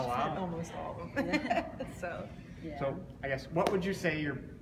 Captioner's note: laughs